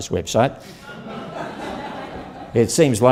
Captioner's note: audience Laughter